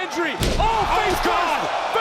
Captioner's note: bodies slam